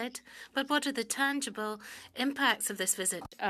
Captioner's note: speaking French